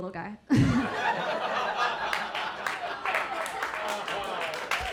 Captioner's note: audience laughing